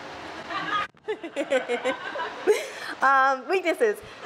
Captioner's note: laughs